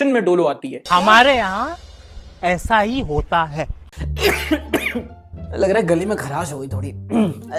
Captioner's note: cough